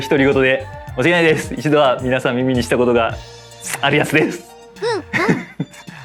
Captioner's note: laughs